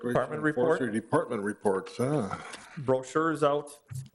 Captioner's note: sighs; chuckles